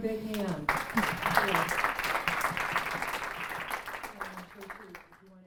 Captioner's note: applause